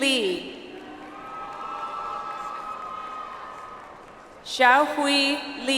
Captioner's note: audience applauds